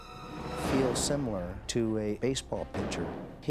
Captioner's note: grenade bangs